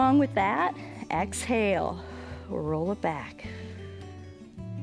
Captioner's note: exhales